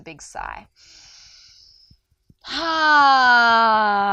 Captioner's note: inhales deeply